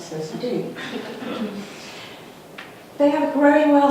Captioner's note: audience laughs